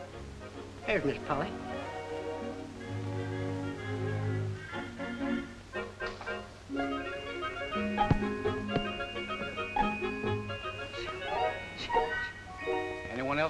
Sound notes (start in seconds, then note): 3.1 upbeat music; 7.9 apple thuds; 11.3 playful music